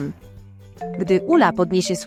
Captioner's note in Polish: dzwonek telefonu